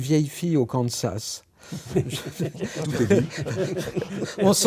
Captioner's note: laughs